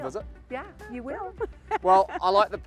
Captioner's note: laughs